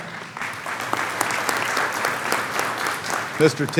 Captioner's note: clapping